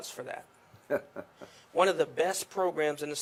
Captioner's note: laughs